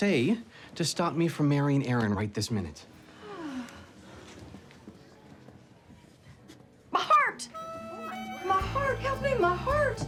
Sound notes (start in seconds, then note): 3.2 renee sighs dramatically